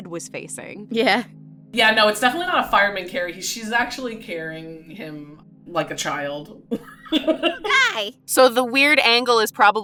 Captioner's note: chuckles